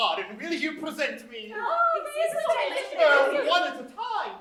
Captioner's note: overlapping chatter